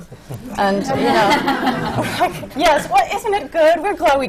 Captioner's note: laughter